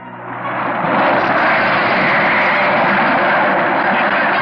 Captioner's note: splashing